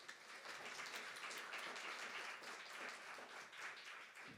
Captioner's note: audience applauding